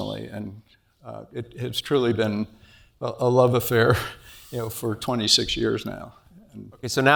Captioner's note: laugh